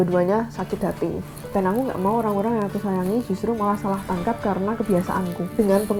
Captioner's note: sarcastic